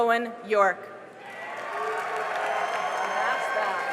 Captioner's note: cheering and applause